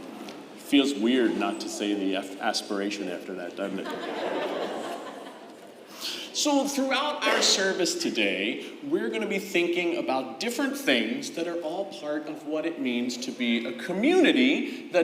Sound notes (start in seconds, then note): 3.7 crowd laughing